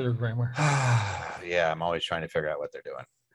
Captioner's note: sighs